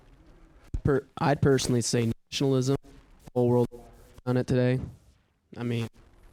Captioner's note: mic cuts out